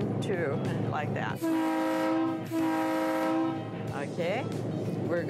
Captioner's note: train horn honking